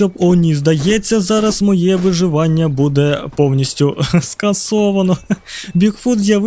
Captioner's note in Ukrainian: сміх